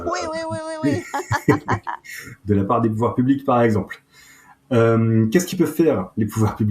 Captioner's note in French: rires